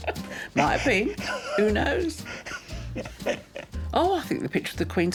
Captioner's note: laughing